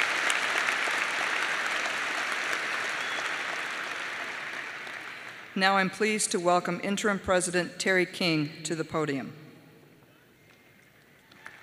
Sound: applause

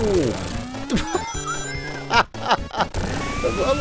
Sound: laughs

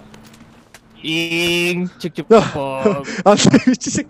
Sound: makes train sounds

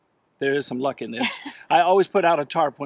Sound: laughing

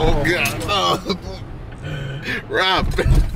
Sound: groans

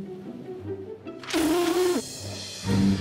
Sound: blows raspberry

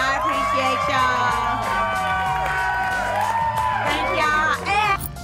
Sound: cheering

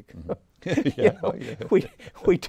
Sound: both laugh

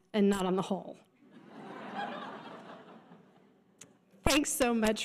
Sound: audience laughter

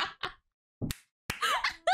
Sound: claps

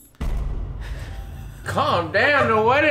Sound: laughing

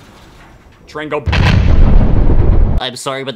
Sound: booooooooooooooommmmmmmmm

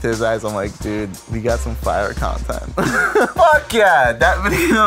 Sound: laughs

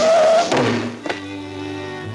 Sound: sound of brakes squealing; thud!

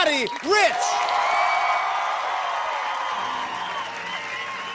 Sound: cheering, whistling, and applause

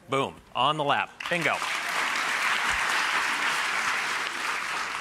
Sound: applause

